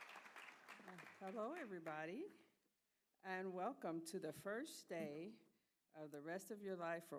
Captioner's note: applause